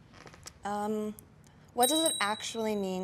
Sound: bells ringing

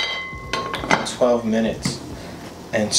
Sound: pan clanging

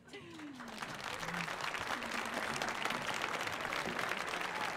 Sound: audience applauding

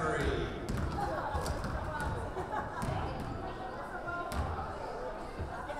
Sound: players and crowd chattering

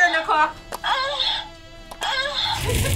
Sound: buzzer moans

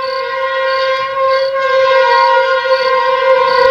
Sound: train horn blares

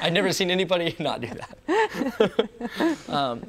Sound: both laughs; both laughing loudly

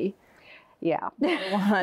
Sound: laughs

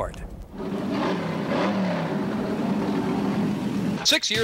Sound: boat engine revving

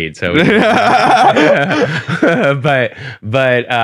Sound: both laughing

